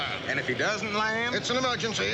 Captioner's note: none